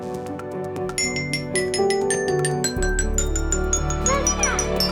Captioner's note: bell ringing